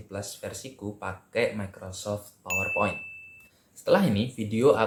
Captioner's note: bell sound